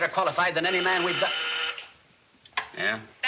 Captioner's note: intercom buzzing; woman On Intercom